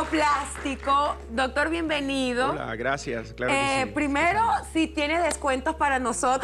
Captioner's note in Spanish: aplausos